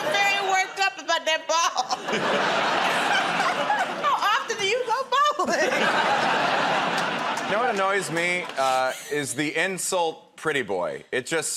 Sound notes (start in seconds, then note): 1.8 laughter